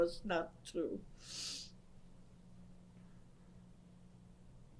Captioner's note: pauses for 6 seconds